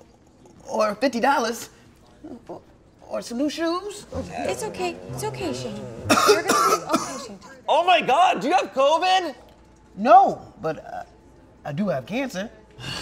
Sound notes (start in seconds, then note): 7.1 coughing